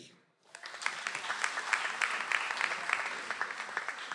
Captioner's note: audience applauds